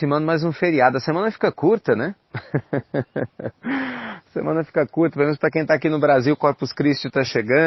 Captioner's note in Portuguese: risos